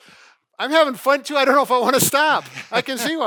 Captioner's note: laughs